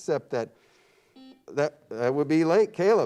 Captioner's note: buzzer beeps